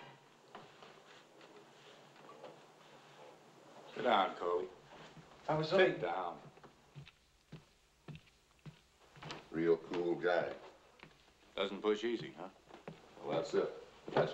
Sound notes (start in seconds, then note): 6.3 footsteps